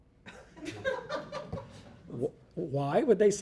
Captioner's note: audience laughing